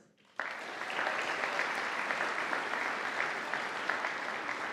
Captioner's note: audience applauding